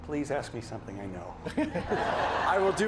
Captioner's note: laughter